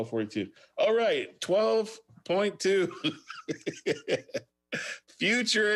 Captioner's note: laughs